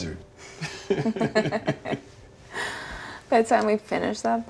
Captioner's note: both laughing